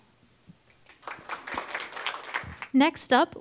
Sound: applause

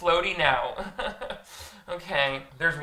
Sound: chuckles

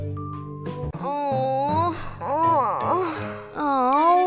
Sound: laughs; moaning

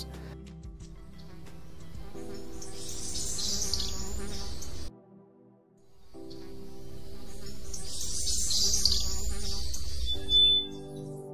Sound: fly buzzing

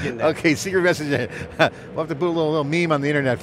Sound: chuckles

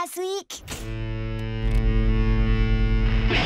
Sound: speakers humming

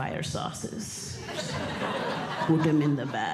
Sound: audience Laughing

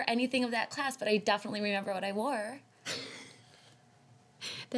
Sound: laughs

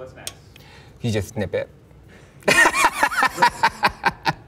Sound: laughs

